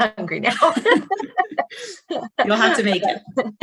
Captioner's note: all laughing